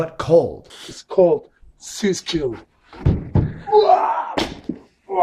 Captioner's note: screams